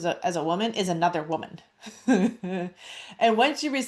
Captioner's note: laughs